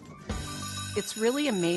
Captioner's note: bell rings